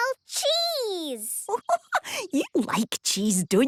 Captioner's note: giggling